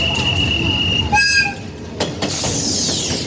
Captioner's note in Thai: หวี๊ด